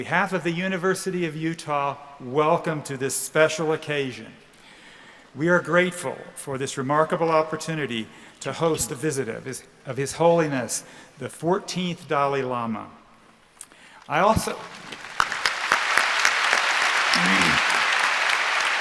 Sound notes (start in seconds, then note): 14.2 applause